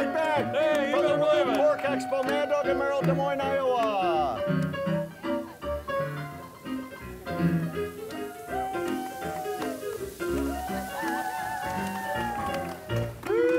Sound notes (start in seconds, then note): 3.8 lively music; 8.7 crowd cheers